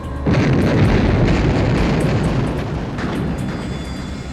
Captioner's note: bomb explodes